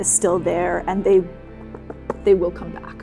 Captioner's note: finger tapping